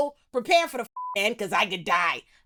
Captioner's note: beep